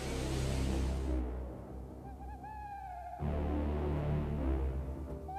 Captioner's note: engine whistles; frightening music playing; owl hooting